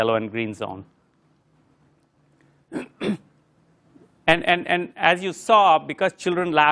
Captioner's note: cough